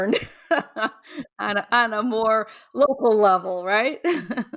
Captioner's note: chuckles